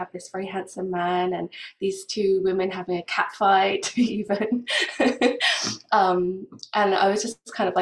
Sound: laughs

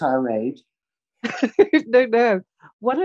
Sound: chuckles

